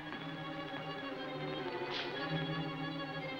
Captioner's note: foot steps